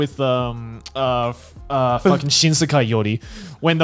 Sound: murmurs

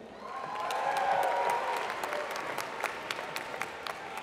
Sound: applause

